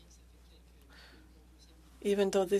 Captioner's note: speaking French